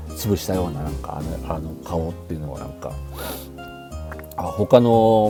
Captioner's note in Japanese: 鼻息